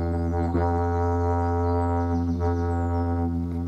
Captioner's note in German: lautes Dröhnen